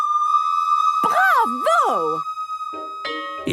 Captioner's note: school bell ringing